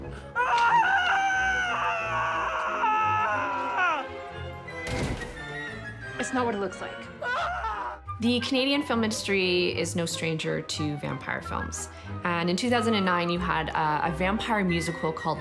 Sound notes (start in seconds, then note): 0.5 man screams; 4.8 body thuds; 7.4 man screams